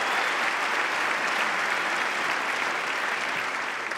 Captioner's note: applause